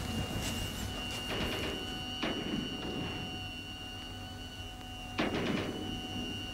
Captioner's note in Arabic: إطلاق نار; موسيقى درامية